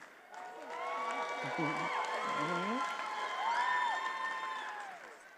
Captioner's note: attendees applauding